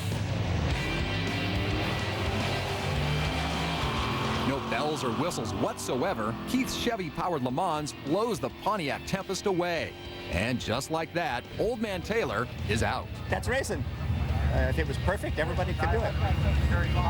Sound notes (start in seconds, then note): 0.6 engine revving